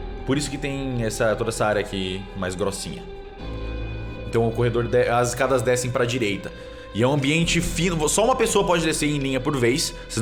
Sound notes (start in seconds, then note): none